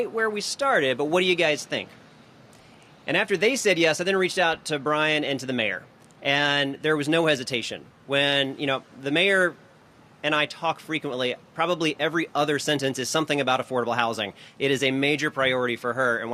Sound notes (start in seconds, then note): none